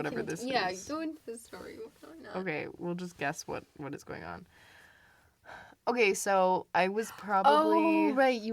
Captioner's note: sighs